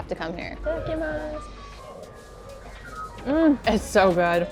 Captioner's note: speaks in foreign language